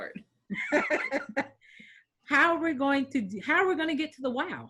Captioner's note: chuckles